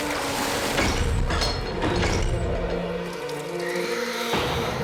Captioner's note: screaming and screeching